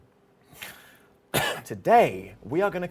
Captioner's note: clears throat